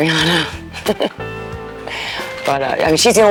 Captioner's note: laughs